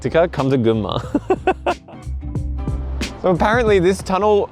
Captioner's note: laughs